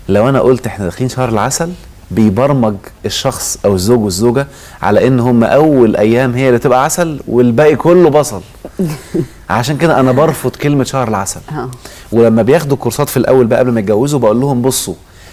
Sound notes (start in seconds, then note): 9.7 laughter!